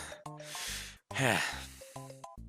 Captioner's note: breathing